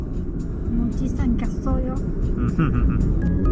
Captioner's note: laughs